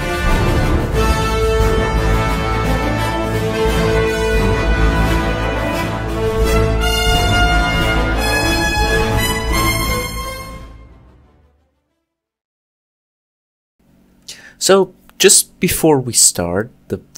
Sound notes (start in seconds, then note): 11.0 silence